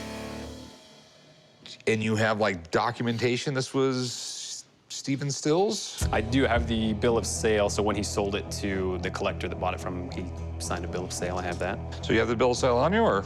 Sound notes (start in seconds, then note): none